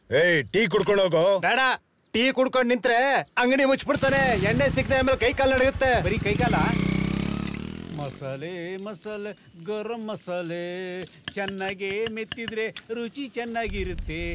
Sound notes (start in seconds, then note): 7.4 bike Sound